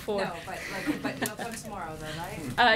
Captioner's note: laughter